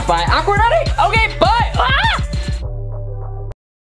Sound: screams

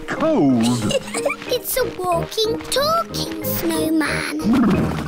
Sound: laughs

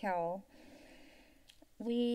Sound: inhales

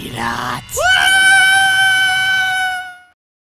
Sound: screaming

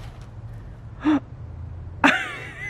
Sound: gasps

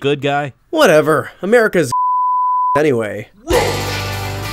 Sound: beep

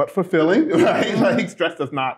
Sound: laughter

